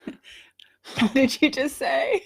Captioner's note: laughter